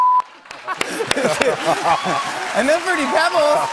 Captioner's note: laughter